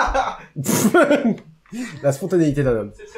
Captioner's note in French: Rire